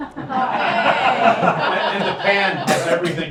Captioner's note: laughing